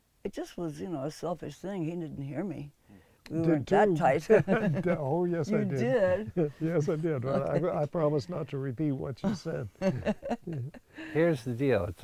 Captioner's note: laughs